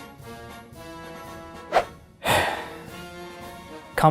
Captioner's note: sigh